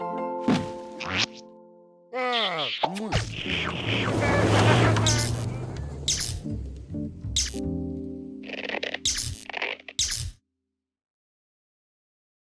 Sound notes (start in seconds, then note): 4.0 laughs